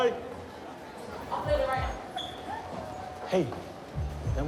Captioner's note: girls giggle